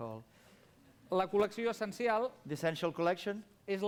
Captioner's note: non-english speech